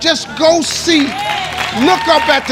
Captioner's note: crowd applauds